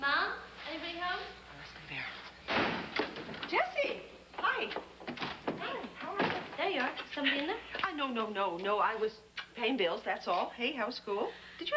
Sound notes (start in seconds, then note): 0.6 door opens